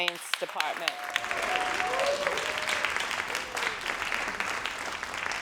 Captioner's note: crowd cheering and applauding